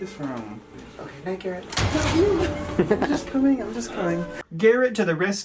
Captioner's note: laughter